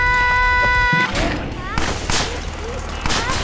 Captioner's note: Malice screaming; crashing; machine clicking and pumping